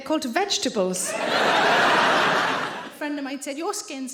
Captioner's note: audience laughing